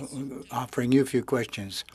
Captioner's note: speaking in French